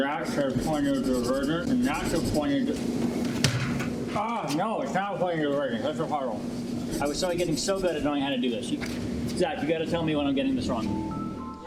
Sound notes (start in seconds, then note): 3.4 bang; 10.8 mysterious music